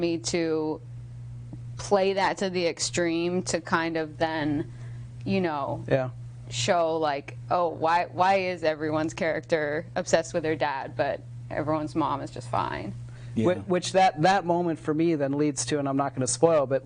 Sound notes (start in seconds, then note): none